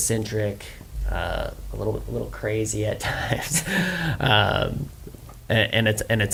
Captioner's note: laughs